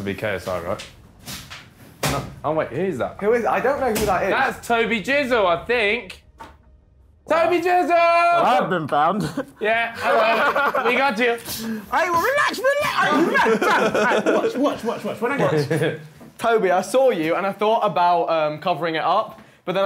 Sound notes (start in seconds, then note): 12.1 laughing; 12.1 yelling